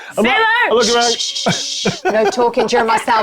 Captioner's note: shushing